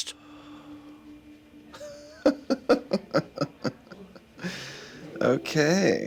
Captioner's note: laughs